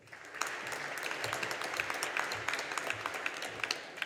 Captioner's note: audience applauding